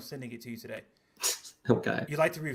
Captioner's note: scoffs